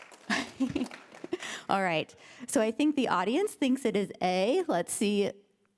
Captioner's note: applause; chuckles